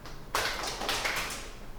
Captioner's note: clapping